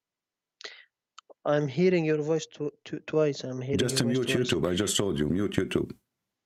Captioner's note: echo